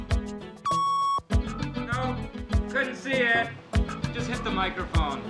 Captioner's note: machine beeping